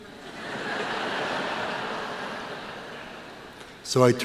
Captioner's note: laughter